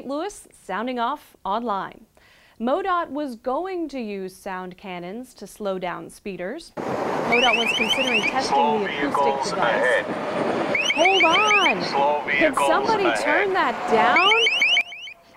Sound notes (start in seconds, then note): 8.6 yell